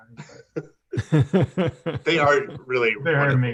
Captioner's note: laughing